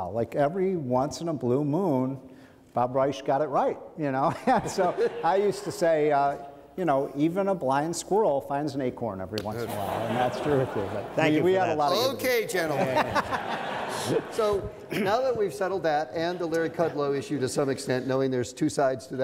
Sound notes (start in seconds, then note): 13.3 men laugh